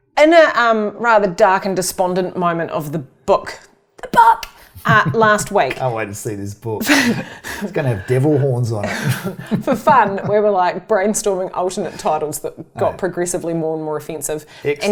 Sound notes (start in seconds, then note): 4.6 giggles; 7.1 laughs briefly; 8.7 chuckles